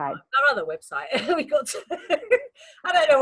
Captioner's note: laughs